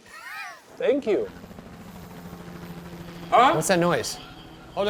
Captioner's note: helicopter flies overhead